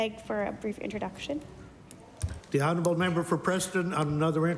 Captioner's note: applause